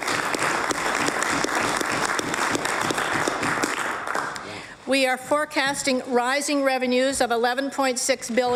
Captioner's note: applause